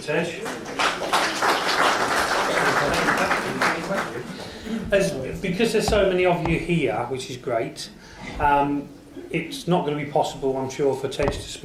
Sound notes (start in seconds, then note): 0.2 audience applauds